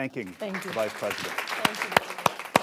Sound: applause

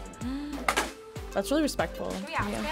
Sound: gasps

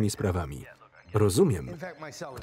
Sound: phone ringing

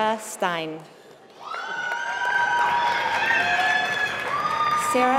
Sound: applause

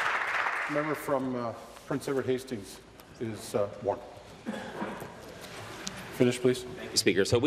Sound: applause

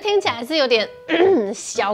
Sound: clears throat

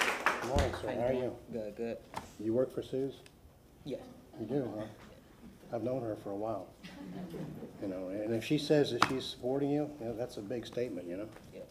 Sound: applause

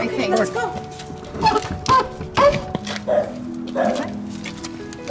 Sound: squeaks from gate; barks

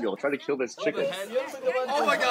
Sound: relatives shouting in the background

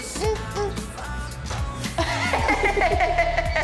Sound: laughing

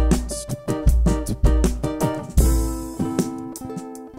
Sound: beatboxing

